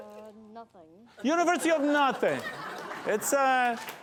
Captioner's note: laughter